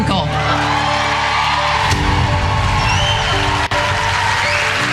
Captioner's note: audience applauding